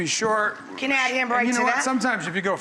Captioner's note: murmurs